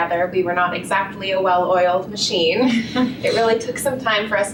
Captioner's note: laughter